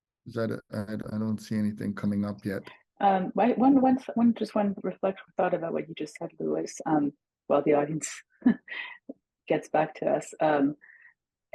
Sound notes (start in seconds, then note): 8.8 laughs